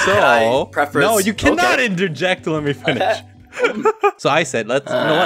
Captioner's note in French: rigole